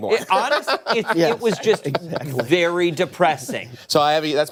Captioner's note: laughter